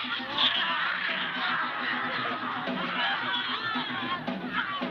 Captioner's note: crowd cheering